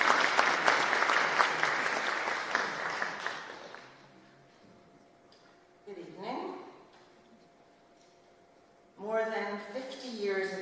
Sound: applause

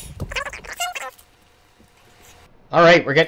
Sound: voices stop squeaking

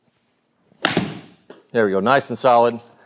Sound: golf ball cracks

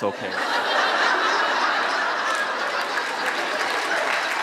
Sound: audience laughs

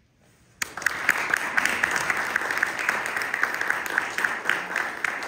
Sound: applause

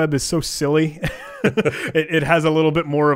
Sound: laughing

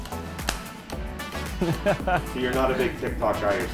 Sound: laughter

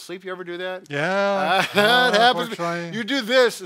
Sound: laughing

